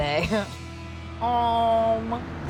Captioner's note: chuckling